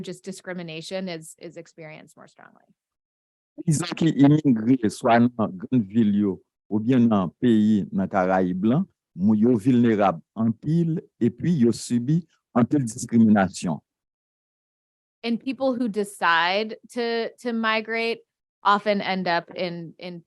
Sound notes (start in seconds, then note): 3.9 speaking a foreign language